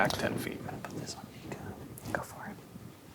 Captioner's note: quietly